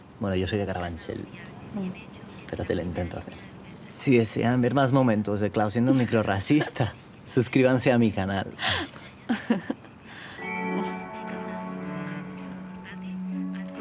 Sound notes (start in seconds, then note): 4.1 colombian accent; 8.6 she laughs